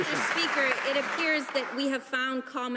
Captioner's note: some Applause